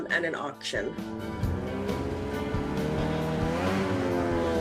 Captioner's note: engine roaring